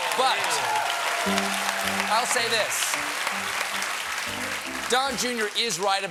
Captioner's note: applause